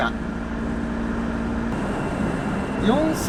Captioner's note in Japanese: エンジン音